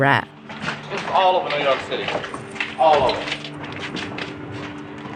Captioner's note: soundbite of archived recording